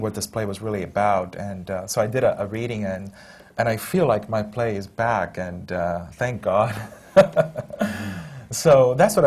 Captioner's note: laughs